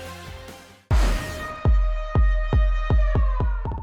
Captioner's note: siren